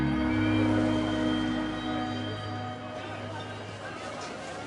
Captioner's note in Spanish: bullicio del lugar